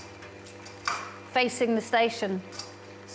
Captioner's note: none